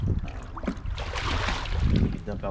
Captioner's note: water splashes